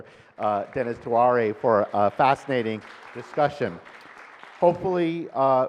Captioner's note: audience and panel claps